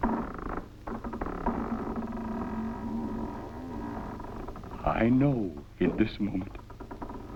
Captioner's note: creaks